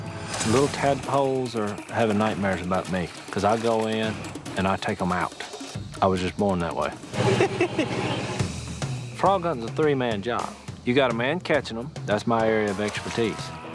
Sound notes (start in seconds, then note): 7.2 laughter